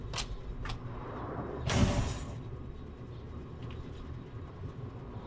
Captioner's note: metal rattles